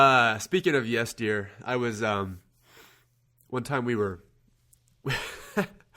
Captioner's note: laughs